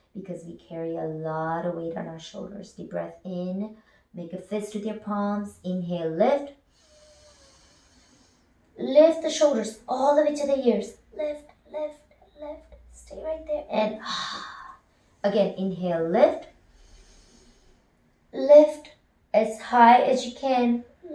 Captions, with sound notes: because we carry a lot of weight on our shoulders. Deep breath in, make a fist with your palms. Inhale, lift. Lift the shoulders all the way to the ears. Lift, lift, lift, stay right there and [exhales] Again, inhale, lift. Lift, as high as you can,